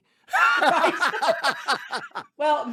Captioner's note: laughing